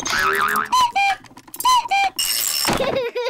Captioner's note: clock cuckoos; panting; laughs